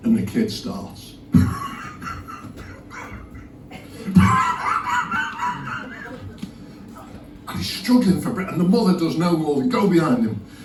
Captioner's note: gasping noises